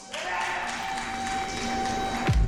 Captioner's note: clapping